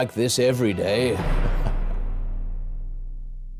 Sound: Walter chuckles

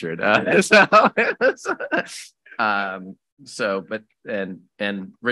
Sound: laughing

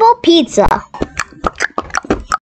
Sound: knocking noises

